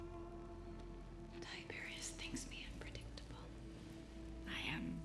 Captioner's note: wh ispering